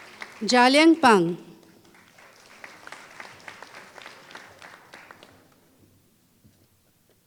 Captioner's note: applause